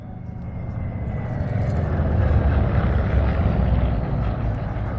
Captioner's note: roaring airplane